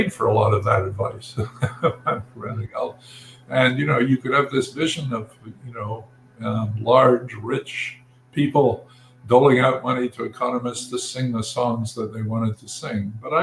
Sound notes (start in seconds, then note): 1.2 laugh